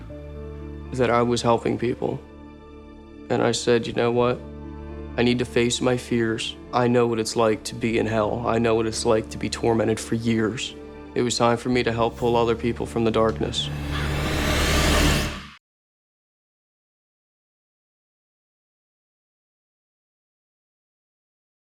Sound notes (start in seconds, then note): 11.8 crows cawing; 11.8 intense eerie music